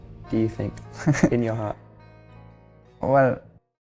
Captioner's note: laughing